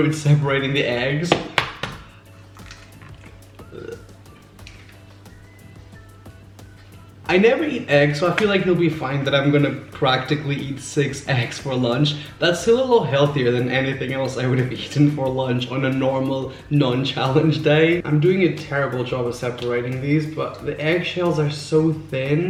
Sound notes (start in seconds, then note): 3.6 gagging noise